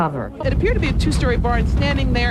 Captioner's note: fire crackling